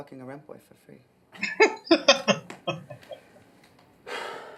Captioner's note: laughing